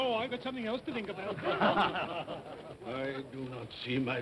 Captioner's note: all chuckle